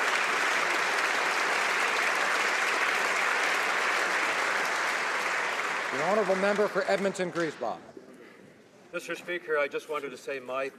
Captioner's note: applause